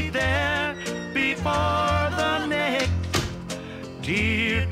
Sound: door creaks; door closes

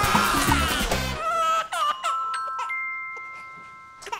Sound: screaming; crying

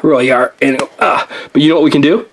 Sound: putty snaps

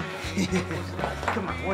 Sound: laughs

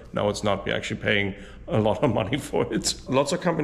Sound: laughs

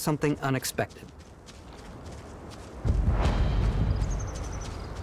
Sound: birds chirping

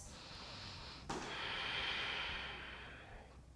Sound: deep breathing

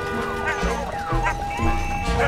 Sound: yapping

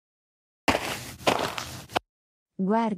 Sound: FX - Footsteps - On Multiple Dirt - Walk

